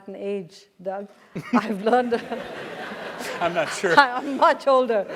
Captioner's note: laugh